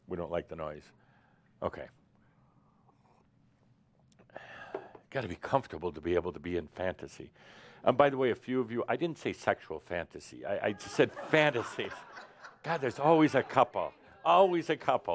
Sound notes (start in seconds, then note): 10.8 laughter